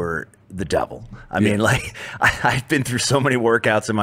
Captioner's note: laughs